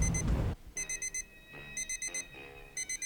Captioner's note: alarm beeping